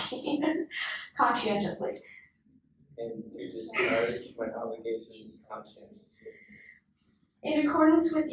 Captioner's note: inductees repeat